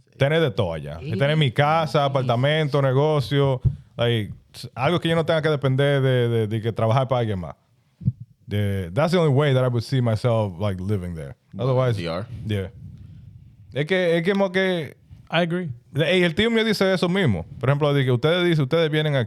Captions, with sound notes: That's the only way that I would see myself like living there. Otherwise, yeah. I agree. (Speaking In Foreign Language)